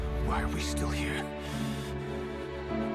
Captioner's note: meme Voice